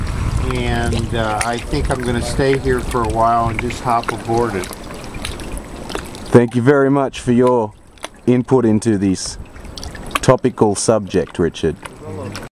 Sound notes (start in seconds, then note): 5.2 slushing water; 6.5 voiceover